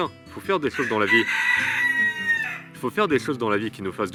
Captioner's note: rooster Cries